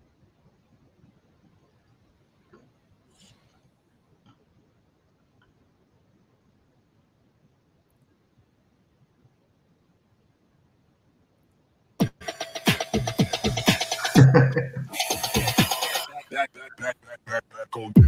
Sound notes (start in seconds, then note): 12.0 energetic upbeat music; 12.3 laughs softly